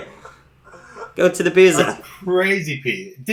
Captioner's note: laughs